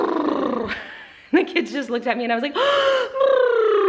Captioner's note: gasps